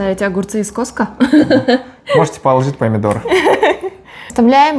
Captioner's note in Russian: смеется